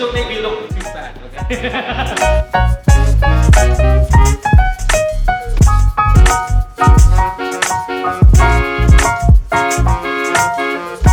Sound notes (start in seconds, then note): 1.4 laughs; 3.3 upbeat music